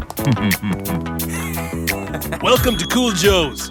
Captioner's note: snickering